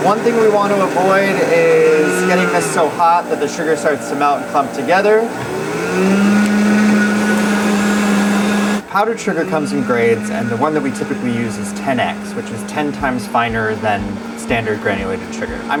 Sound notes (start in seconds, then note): 5.5 blender whirring loudly